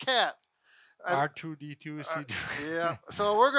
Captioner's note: sniggers